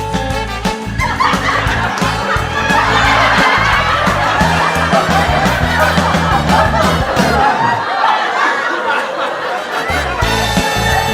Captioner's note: laughter